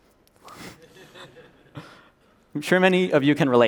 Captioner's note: laughter